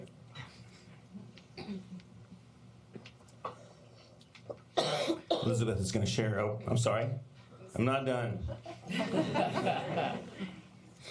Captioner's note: laughter